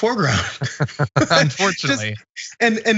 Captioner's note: laugh